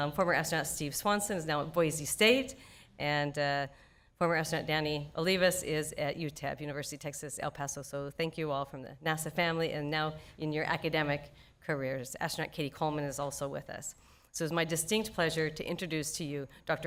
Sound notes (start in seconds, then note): none